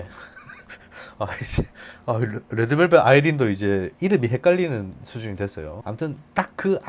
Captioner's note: laughs